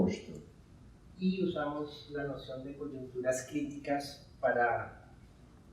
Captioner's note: speaking in Spanish